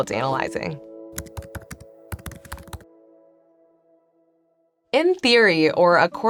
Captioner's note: keyboard clacking